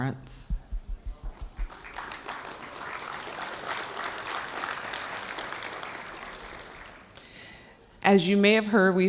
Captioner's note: applause